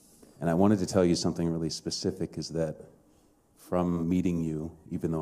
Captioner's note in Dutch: none